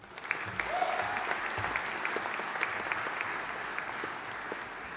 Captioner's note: audience applauding